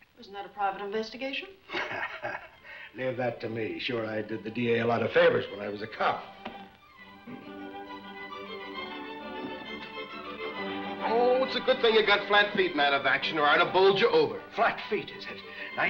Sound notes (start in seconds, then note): 1.7 laughs; 7.6 upbeat music